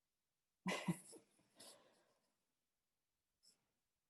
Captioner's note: laughs